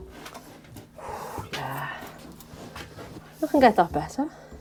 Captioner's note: hammering